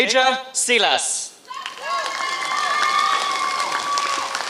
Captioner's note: applause